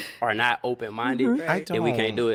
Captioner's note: laughing